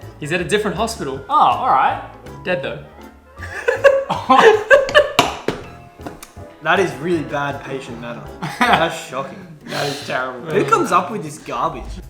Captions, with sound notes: - He's at a different hospital. - Oh. All right. - Dead though. (laughs) - That is really bad patient matter. That's shocking. - That is terrible. - Who comes up with this garbage?